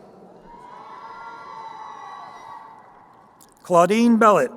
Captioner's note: crowd cheering